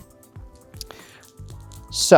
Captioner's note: dice rattling